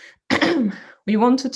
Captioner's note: coughs